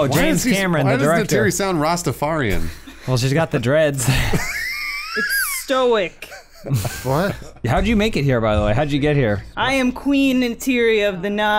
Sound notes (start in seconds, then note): 4.0 wheezing laughter